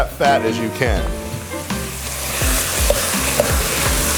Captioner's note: sizzling